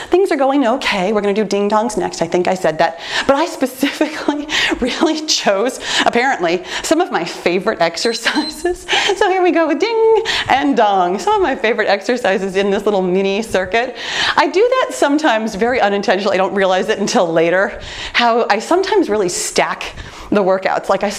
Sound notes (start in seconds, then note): 7.9 timer beeps